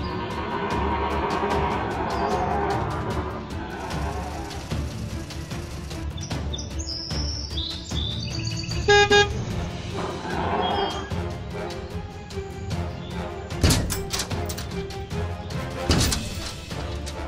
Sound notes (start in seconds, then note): 8.8 truck horn honking; 9.9 Indoraptor growling